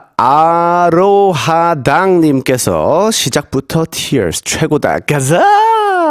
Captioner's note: tears